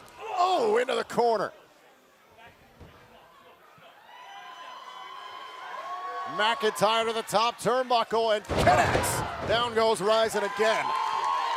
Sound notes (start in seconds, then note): 3.9 cheers and applause